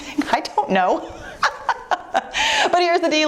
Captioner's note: laughing